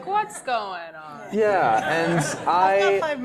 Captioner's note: laugh